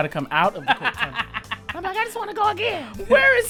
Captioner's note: laughter